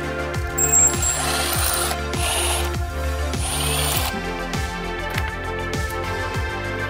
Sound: upbeat instrumental music; drill whirring

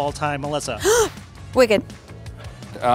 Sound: gasp

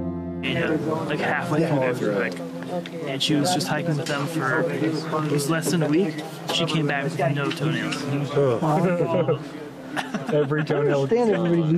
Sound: chatting

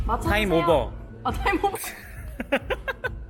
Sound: giggled

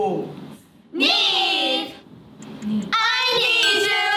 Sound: speaking in Korean; timer ticking; bell rings

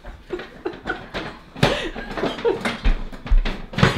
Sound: clanking noises

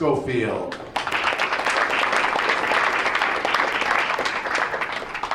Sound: crowd applauds

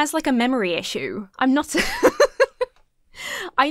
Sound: laughs

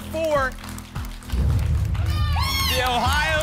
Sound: phaser sound; boom

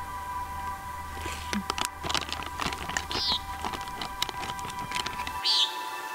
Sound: crinkling sound from the bag

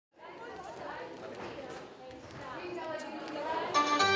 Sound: chatter

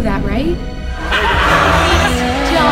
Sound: jacob and friends laughing

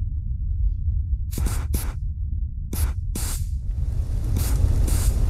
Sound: satellite hissing

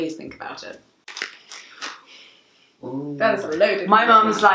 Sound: clapping

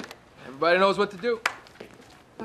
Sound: clapping of hands

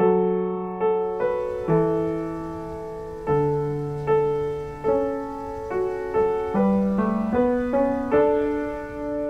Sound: the humming sound of a spinning wheel; swishy water sounds

